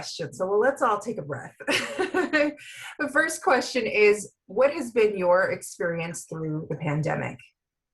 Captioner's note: laughter